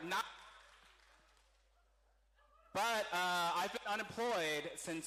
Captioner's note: cheering